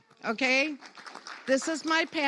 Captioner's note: audience applauds